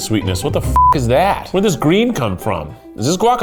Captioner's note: beep